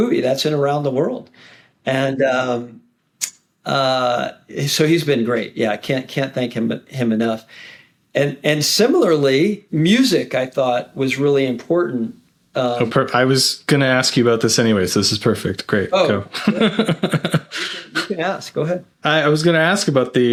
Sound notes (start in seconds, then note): 16.1 laughing